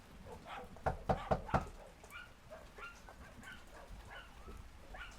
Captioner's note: knocking on door